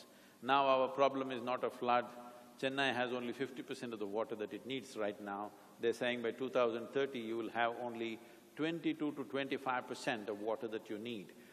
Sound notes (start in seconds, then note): none